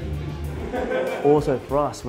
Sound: laughing

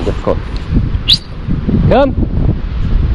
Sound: whistling

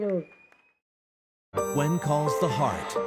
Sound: applause

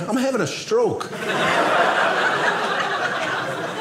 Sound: audience laughing

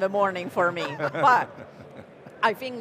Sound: chuckles

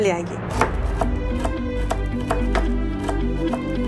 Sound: knife swishing

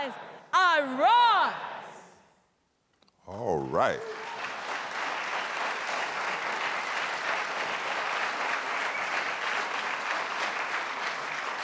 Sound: applause

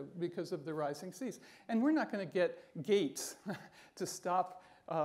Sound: chuckles

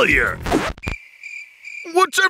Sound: crickets chirping

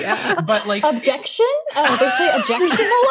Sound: laughter

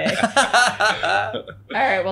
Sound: laughing

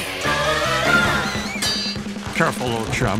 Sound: clangs

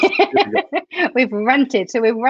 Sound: laughs

